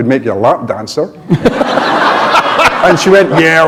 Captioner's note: laughter